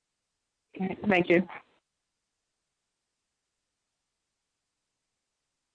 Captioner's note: silence